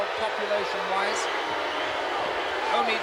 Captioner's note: crowd clamoring